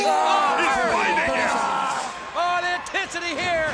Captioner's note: Steve screams